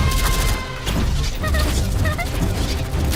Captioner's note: happy giggles